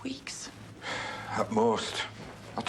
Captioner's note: Harry sighs